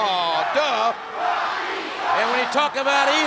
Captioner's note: crowd chanting "Rocky sucks!"